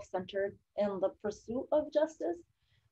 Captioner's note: none